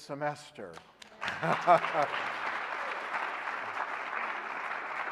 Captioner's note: audience applauding